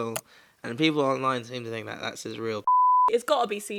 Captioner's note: beep